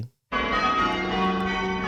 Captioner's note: bells ringing call changes